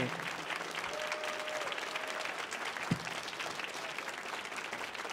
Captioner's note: audience cheering